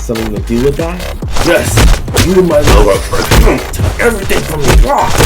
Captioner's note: grunting